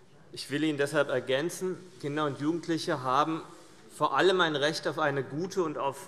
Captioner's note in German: none